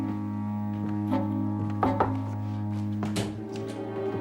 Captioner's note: knock on door